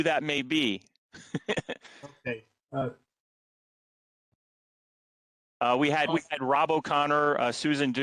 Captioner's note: laughter